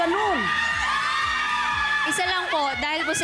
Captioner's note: audience screaming